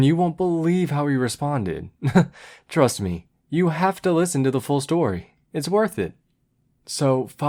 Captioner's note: chuckle